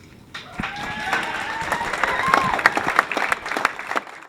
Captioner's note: cheers & applause